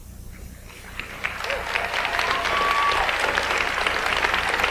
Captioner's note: audience applauds